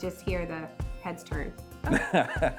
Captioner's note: laughing